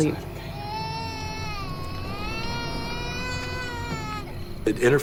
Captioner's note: crying continues